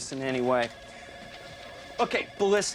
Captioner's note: phones ringing